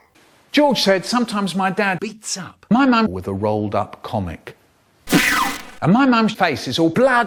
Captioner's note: pew